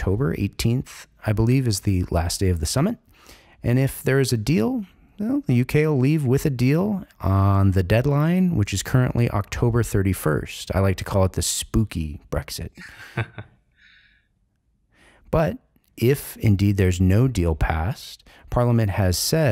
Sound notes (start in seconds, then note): 12.7 chuckles